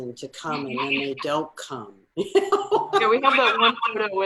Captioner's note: laughs